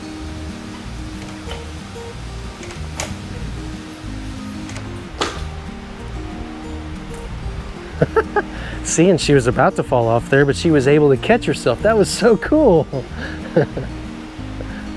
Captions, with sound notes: (beam clattering) (laughs) Seeing she was about to fall off there but she was able to catch herself, that was so cool. (laughs)